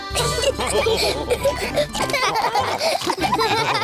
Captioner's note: all laugh